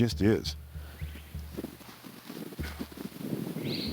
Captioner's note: distant whistle; louder distant whistle